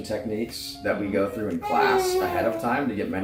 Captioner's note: cooing